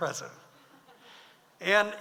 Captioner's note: audience laughs